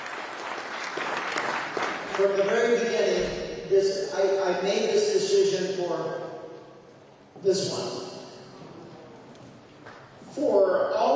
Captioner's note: applause